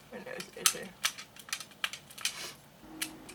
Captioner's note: plastic clicks; sniffs